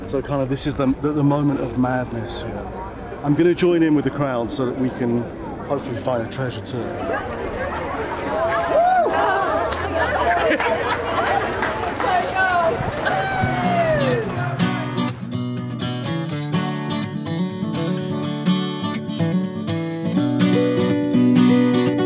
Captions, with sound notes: So, kinda, this is the moment of madness here. I'm gonna join in with the crowd so that we can, hopefully, find a treasure too. (crowd cheering) (upbeat music)